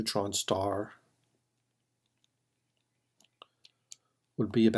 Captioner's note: typing